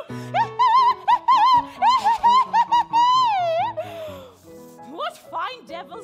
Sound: witch cackling

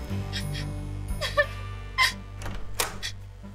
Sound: crying

